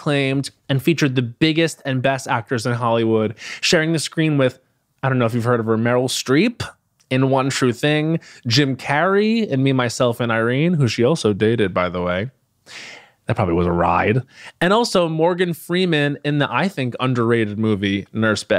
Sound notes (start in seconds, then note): none